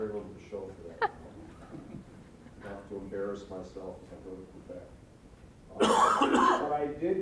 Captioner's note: laughing